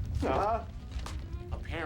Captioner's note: earth rumbling